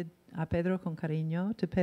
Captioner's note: in foreign language